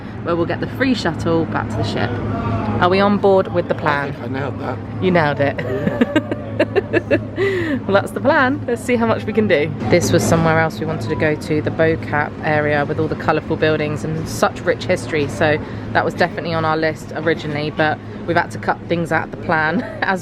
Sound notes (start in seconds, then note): 5.5 laughs